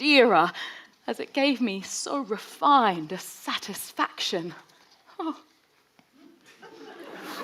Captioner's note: whimpers; audience laughing